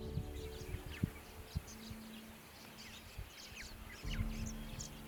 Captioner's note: wildlife chirping